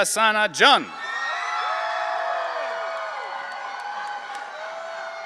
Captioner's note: audience cheering